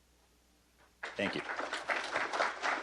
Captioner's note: applause